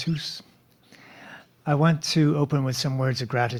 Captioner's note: speaking French